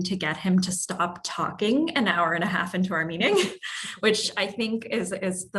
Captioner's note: laugh